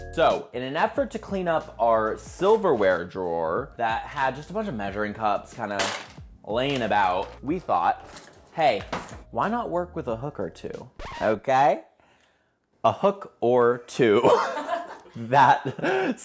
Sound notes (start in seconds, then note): 10.9 record scratch sound